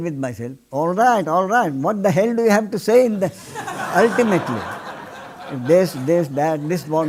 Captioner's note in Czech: smích